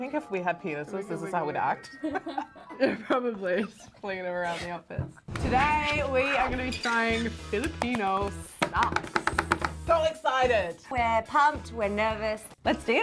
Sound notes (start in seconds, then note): 2.0 laughing; 8.6 tapping table